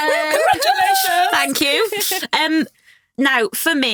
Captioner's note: chuckling